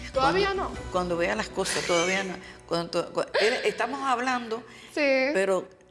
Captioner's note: speaking Spanish